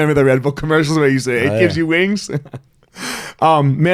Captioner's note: laughing